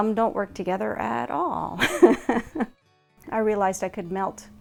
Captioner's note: laughs